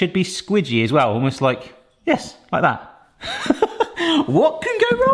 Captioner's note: laughs